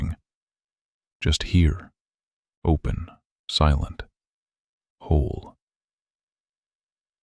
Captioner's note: pause